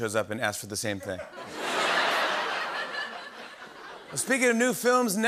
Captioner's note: laughter